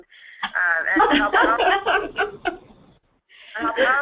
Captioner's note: laughing